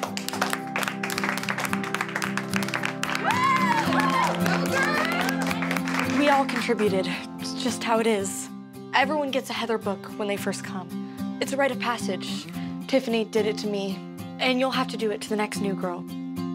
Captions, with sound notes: (applause) - We all contributed. It's just how it is. Everyone gets a Heather book when they first come. It's a right of passage. Tiffany did it to me, and you'll have to do it to the next new girl.